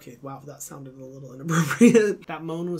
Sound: laughing

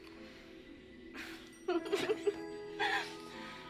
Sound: giggling

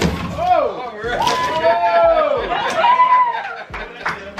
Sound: applauding

